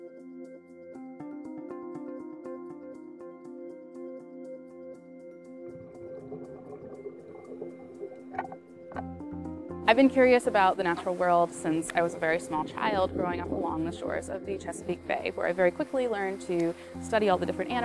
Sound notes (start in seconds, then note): 5.6 water flowing/bubbles